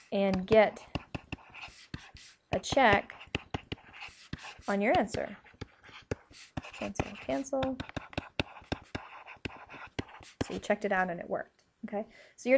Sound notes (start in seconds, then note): 8.9 scribbling